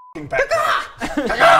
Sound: ca-caw!

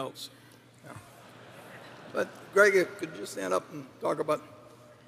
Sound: laughter

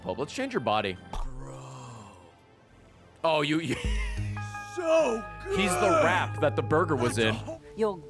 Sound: laughs

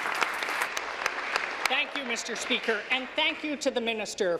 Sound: applause

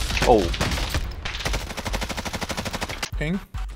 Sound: gunshots

